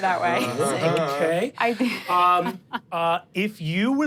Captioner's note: laughs